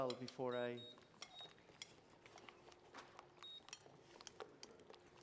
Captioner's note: beeping